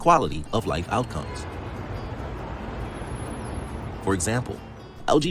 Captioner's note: traffic Sounds